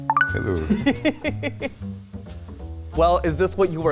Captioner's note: laughing